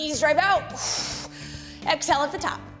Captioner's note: exhales